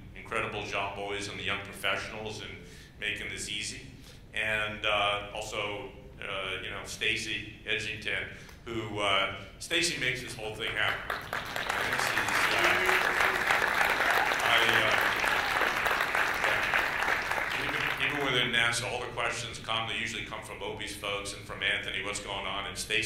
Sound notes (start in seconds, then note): 13.8 applause